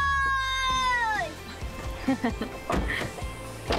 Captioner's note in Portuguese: risos